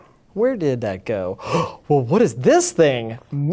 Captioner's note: inhales breath deeply